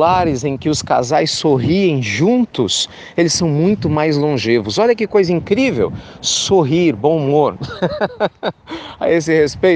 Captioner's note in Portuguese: Risos